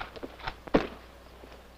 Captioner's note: thud